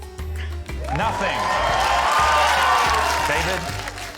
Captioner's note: cheering, applause